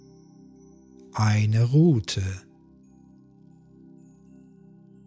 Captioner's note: german